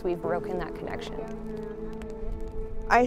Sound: fire crackling

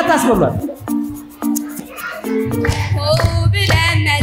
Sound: crowed sound; traditional song sang by girls for the new years

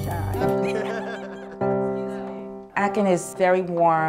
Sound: laughing

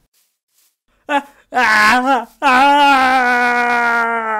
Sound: screaming

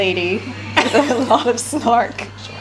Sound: laughs

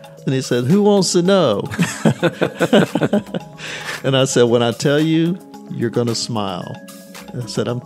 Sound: laughter

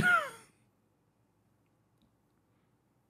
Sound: laughing

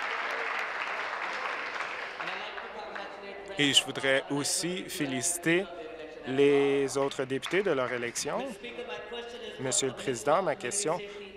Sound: applause

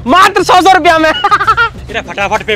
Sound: laughs

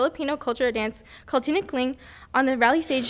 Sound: speaking foreign language

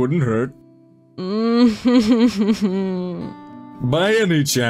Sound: dissapointed noise

